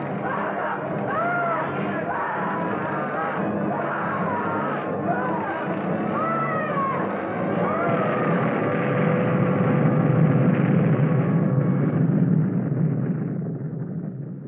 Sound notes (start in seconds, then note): 0.2 screaming; 8.2 explosion